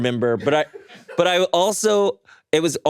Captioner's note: chuckles